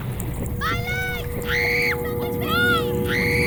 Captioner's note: screaming